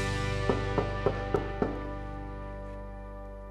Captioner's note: knock on the door